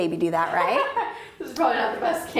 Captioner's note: laughing